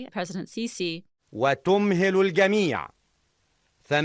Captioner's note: Arabic